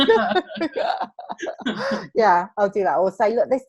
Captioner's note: laughs